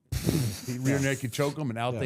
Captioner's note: chuckling